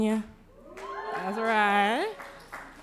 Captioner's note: cheering